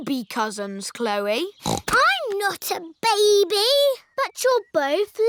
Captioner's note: snorts